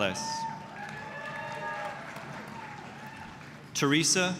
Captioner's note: applause, cheering